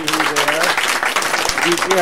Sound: applause

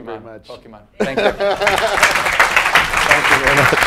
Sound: laugh; applause

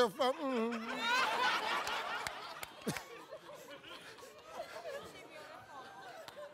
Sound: audience laughing

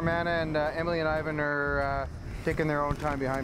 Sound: voiceover

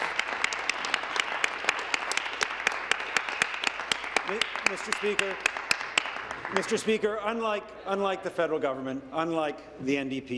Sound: applause

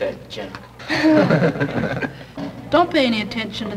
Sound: group laughter

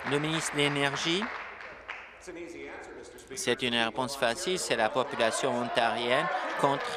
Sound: applause

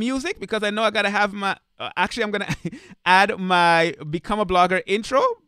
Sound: chuckling

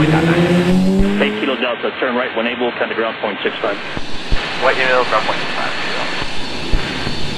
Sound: air traffic chatter

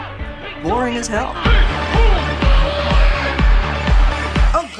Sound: wispily

